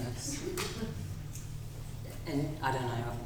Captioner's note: audience laughing